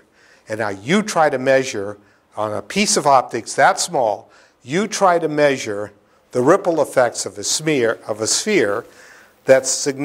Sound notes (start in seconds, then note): none